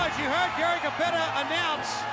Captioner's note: crowd cheering